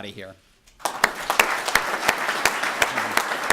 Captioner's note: applause